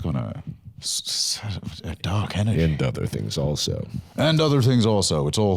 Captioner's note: deep voice